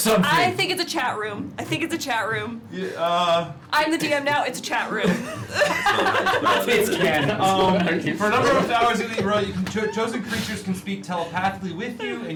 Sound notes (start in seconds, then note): 5.0 laughter